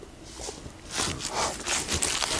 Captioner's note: rustles